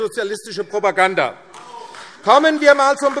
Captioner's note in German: Beifall AfD - Zurufe